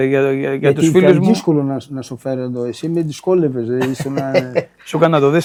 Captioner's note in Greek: γέλια